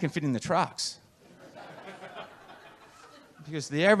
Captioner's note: audience laughs